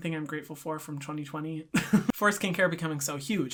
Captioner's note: laughs